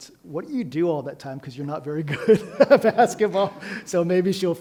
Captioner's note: laughs